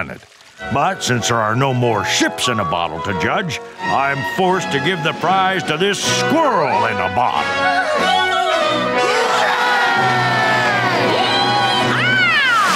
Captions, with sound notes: But since there are no more ships in a bottle to judge, I'm forced to give the prize to this squirrel in a bottle. [cheering] Yee haw!